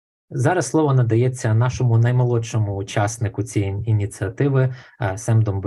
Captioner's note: foreign Language Spoken